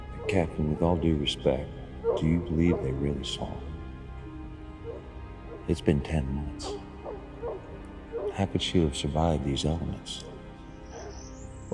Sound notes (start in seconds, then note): 6.4 hounds barking